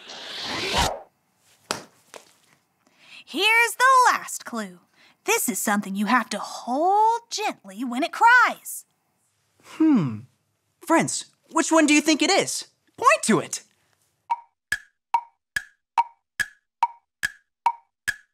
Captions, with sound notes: (air whooshing) Here's the last clue. This is something you have to hold gently when it cries. - Hmm. Friends, which one do you think it is? Point to it. (clock ticking)